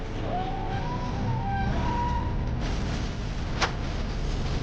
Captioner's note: dragon screeching